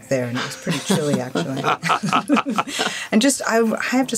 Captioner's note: all laughing